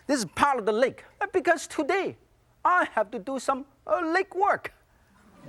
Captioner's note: audience laughs